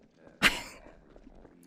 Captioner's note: laughing